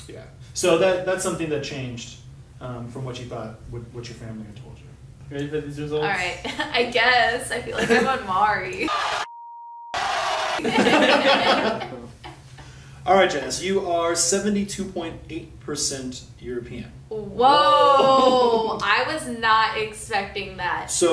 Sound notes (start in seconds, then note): 9.9 maury audience reaction; 10.4 laughing